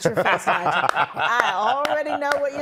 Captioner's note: laughing